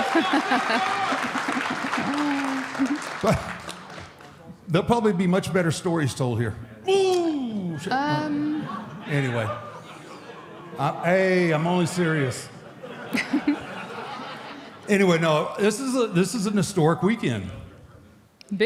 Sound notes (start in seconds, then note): 0.0 Michelle laughs; 0.0 audience applauding; 12.6 audience and Michelle laughs